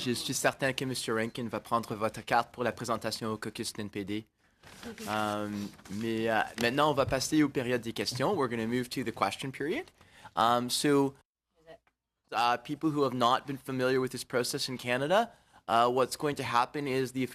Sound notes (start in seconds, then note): 5.6 speaking French